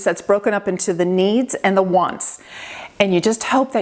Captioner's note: none